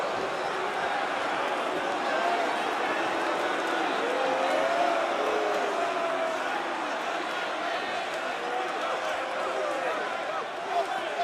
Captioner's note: crowd chatter